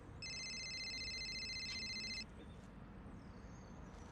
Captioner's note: cellphone ringing